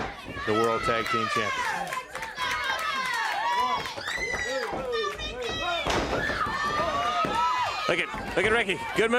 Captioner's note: crowd chatter